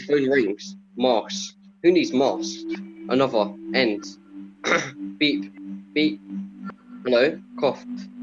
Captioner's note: coughs